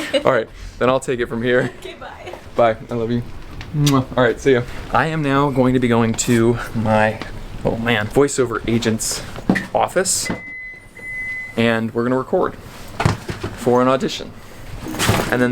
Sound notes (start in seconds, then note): 3.8 kisses